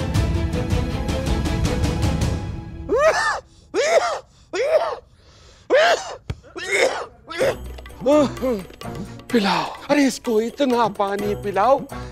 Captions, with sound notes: [coughs] Make him drink so much water